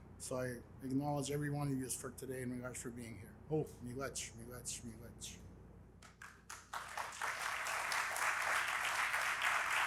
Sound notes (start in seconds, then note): 4.0 elder speaking in Indigenous language; 6.2 audience applauding